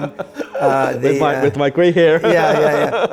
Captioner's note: laughing